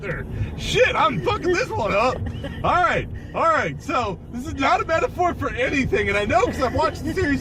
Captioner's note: laughing